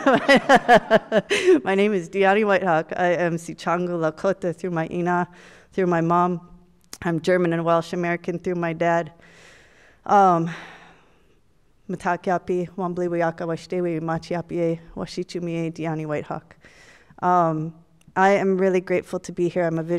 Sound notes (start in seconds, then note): 0.0 audience laughs; 4.5 speaks Lakota language; 12.1 speaks foreign language